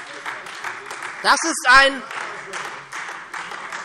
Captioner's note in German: Beifall SPD